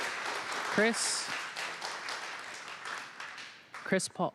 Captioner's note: applause